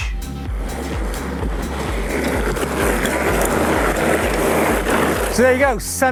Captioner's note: wheels rumbling and gears whirring